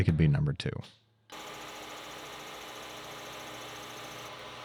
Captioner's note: machine whirring